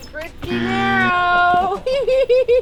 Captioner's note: bell buzzing; laughs